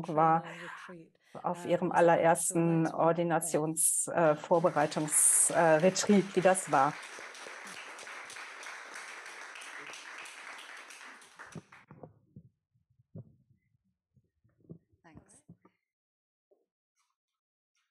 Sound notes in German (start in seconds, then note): 7.1 Applaus